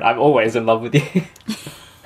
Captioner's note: laughing